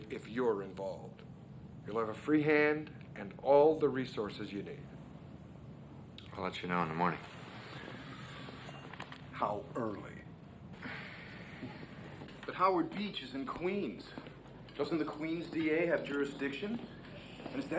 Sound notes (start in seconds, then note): 10.7 Joe sighs; 10.9 Harry chuckles